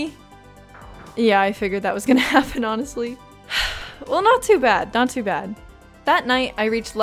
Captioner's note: sigh